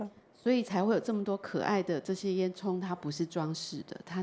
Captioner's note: Mandarin